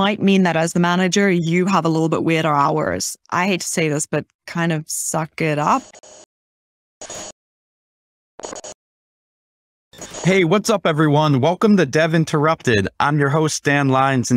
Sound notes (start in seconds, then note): 7.0 static